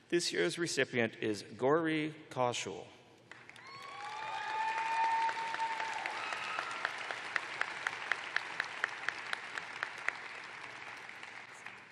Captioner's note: cheers and applause